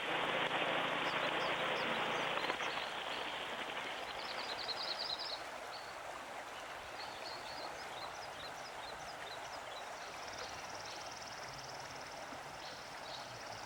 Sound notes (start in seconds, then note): 5.4 forest and creek sounds